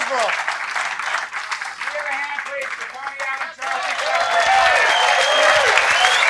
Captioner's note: applause